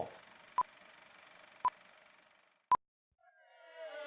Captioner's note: countdown beeping